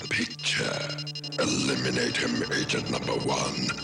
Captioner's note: none